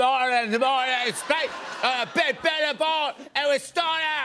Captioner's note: speaking gibberish